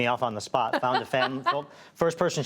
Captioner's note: laughter